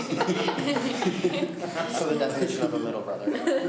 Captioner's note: laughs